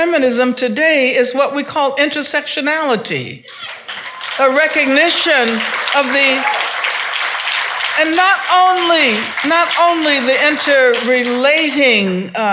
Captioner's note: claps